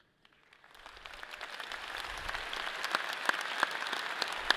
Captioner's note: audience applauds